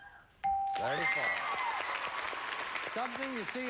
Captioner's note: audience applauding